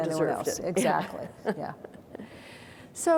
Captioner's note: chuckles